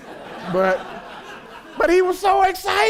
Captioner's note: laughter